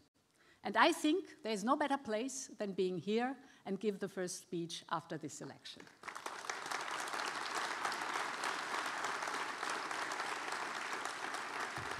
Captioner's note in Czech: Potlesk